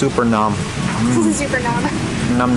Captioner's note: laughs